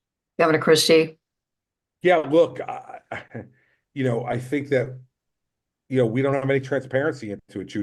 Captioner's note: laughs